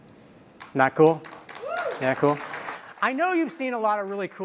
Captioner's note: applause